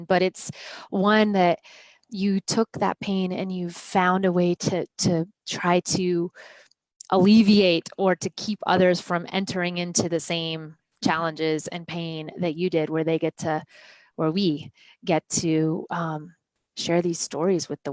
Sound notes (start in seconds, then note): none